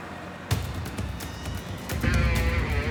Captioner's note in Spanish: ruido del motor